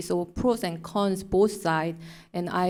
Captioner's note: none